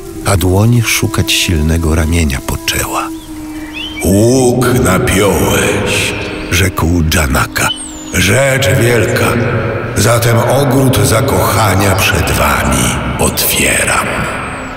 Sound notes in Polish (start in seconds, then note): 3.9 echo